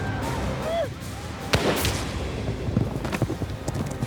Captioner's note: gunshot